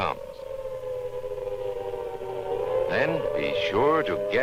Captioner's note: siren